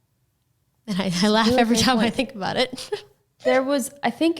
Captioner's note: laughing